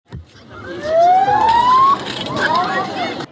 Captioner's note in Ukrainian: сирена